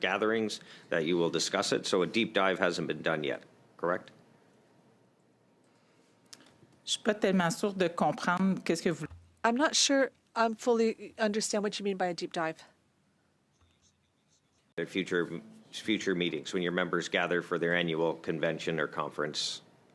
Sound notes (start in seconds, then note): 14.8 speaking French